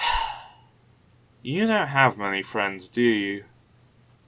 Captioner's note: sigh